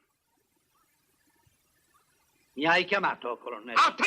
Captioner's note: silence